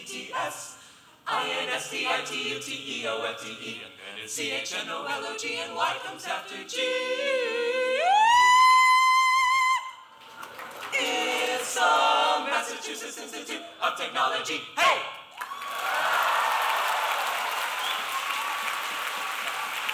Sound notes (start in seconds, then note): 7.6 vocalizing to a high note; 10.2 applause; 15.3 applause